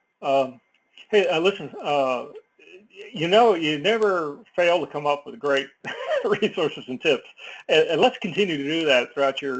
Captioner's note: laugh